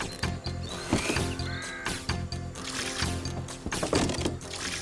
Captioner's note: thud!